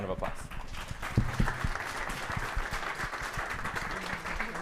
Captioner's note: audience applauding